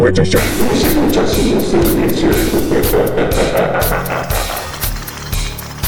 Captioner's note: laugh